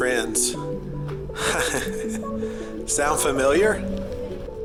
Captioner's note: laughing